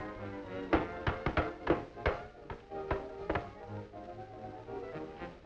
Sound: skates clank

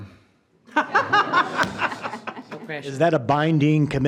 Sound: group laughing

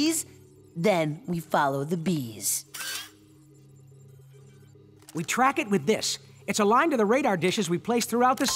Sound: none

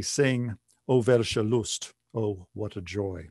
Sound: speaking german

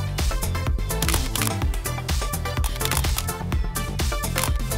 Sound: camera shuttering

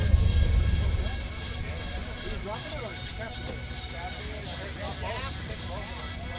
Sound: multiple people talk in background

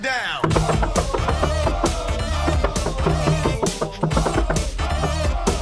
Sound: knocking to the beat

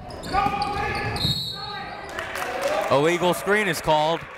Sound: whistle

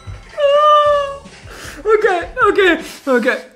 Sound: snorts

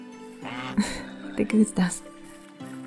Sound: goose quacks

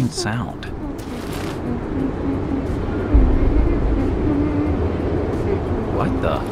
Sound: humming sound

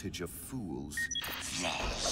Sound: remote beeps

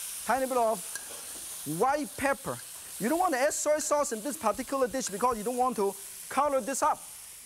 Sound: none

